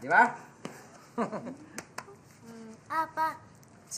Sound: chuckles

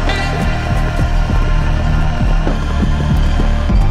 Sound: hoofbeats throbbing

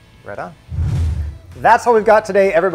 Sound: scene whooshes

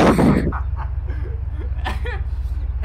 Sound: double inhale

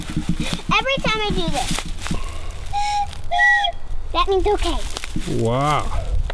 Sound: blows whistle

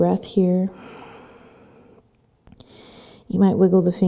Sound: breathing

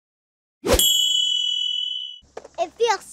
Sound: bell ringing

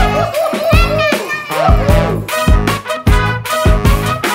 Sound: untranslatable Elvish

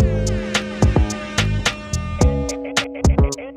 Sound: air horn

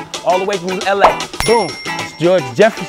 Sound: bell rings

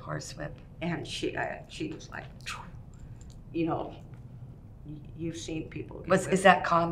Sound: vocalizes

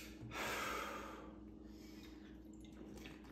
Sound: sighs

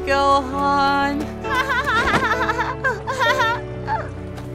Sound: joyful, relieved laughter

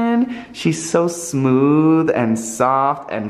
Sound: none

